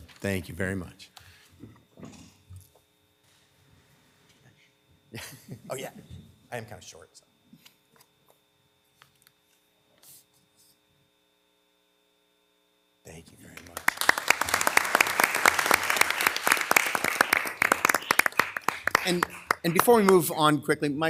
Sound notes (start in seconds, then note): 13.4 participants clapping